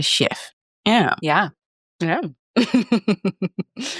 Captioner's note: laughs